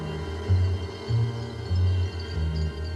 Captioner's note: chandelier tinkling